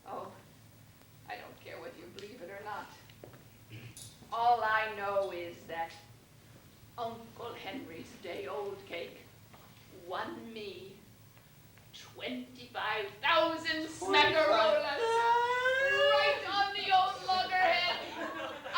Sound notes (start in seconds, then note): 15.4 shouts